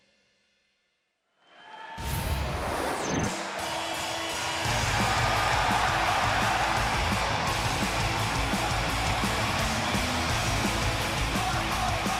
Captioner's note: crowd cheering